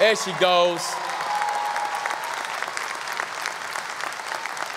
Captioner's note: audience applause